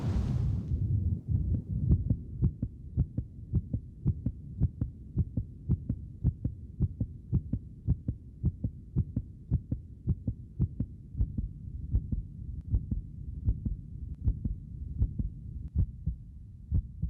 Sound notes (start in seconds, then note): 2.2 heart beating